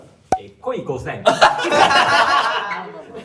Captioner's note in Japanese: 笑い声